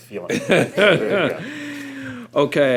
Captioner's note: laughter